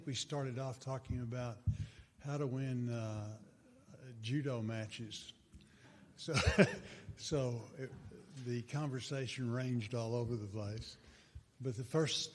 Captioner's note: chuckles